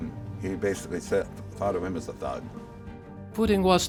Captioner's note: voice-over re-enactment